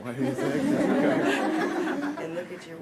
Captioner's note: laughter